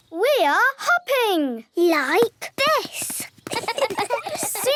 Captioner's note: laughs